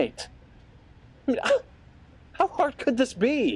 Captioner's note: scoffs